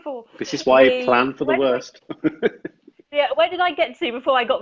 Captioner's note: laughs